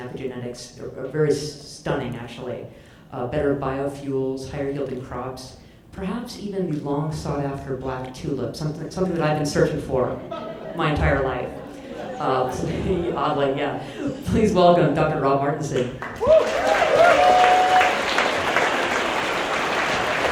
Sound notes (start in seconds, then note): 10.1 audience laughs; 15.9 audience appaluds and cheers